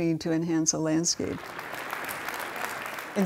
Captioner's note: applause